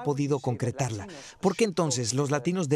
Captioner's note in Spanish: HABLAN EN INGLéS